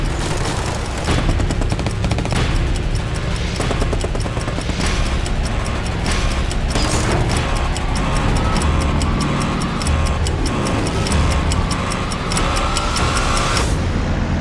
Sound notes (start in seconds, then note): 0.0 guns firing; 7.3 alarm buzzing; 13.5 airplane roaring